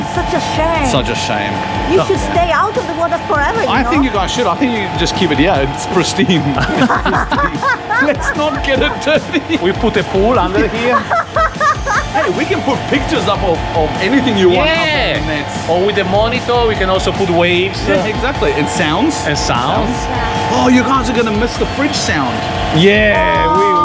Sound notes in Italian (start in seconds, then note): 6.5 risate